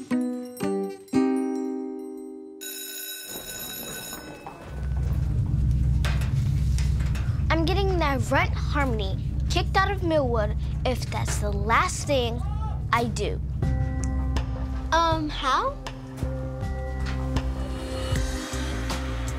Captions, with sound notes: (bell rings) - I'm getting that runt Harmony, kicked out of Millwood if it's the last thing I do. - How? (upbeat music)